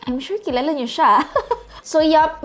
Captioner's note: chuckles